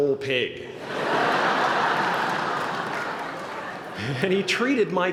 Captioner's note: laughter